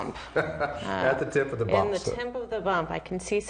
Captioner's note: laughing